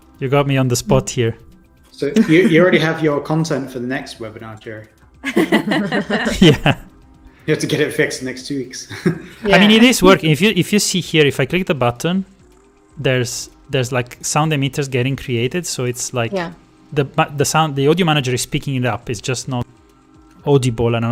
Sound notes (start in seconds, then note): 5.2 laughter